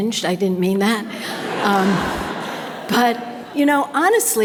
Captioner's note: audience laughter